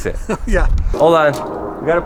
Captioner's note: chuckles